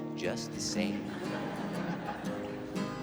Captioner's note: crowd laughing